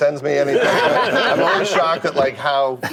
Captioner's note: laughter